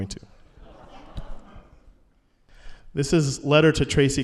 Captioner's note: laughter